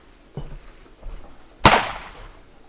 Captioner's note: bang!